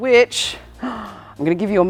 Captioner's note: gasp